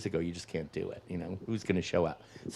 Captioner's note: none